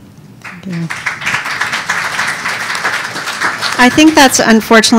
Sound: audience applauding

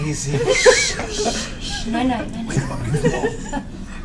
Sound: shushes

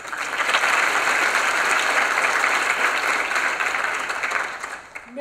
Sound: applause

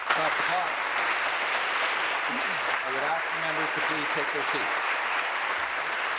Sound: applause

